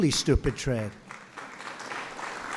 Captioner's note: applause